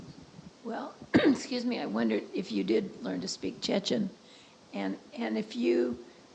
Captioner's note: cough